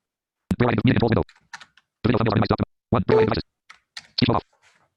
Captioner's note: voice screeching rapidly